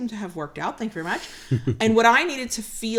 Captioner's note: laughs